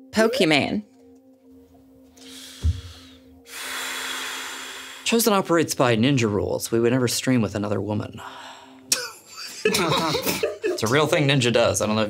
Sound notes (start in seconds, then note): 2.3 sighs; 9.4 everyone laughs